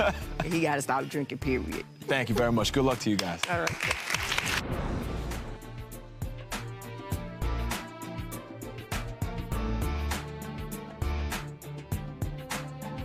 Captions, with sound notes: So, he gotta stop drinking, period. - Thank you very much. Good luck to you guys. (clapping) (slow dramatic music)